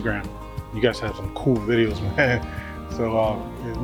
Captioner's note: laughs